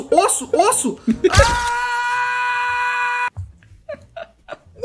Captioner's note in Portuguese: Aaaaahhhhhhh!